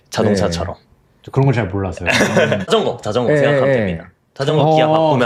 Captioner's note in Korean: 웃음